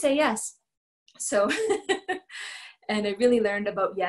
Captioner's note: laughter